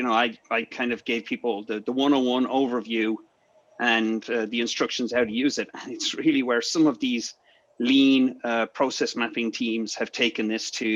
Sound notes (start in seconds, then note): 5.7 giggles